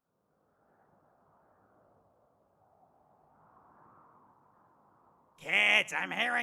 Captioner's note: wind SFX